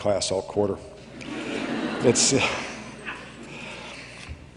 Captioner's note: laughter